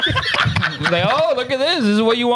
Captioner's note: laughing